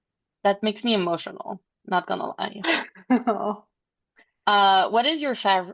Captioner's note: laughing